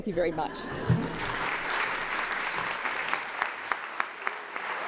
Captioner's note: applause